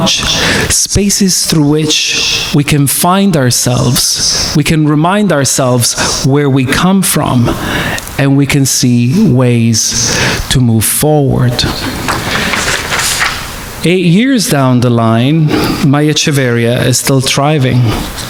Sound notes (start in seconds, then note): 11.9 audience clapping